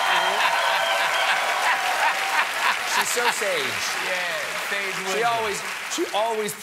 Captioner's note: cheers and applause